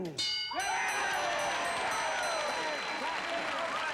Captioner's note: applause